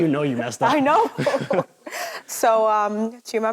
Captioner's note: chuckles